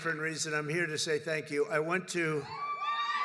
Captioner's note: applause